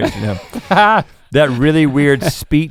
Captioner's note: Link chuckles